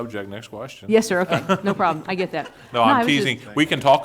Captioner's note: laughing